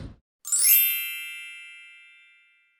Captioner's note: whoosh sound